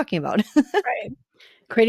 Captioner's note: laughter